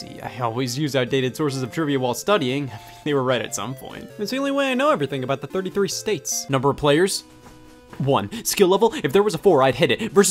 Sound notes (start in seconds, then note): none